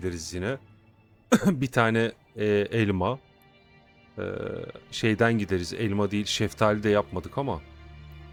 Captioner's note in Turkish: öksürme